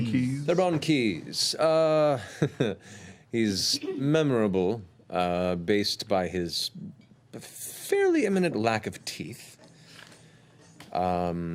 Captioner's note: chuckles